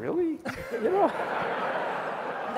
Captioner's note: laughter